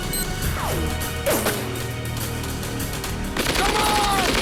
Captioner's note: explosives beeping; guns firing